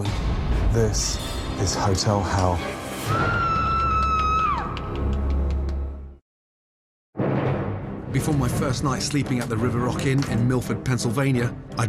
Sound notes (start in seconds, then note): 3.1 woman screaming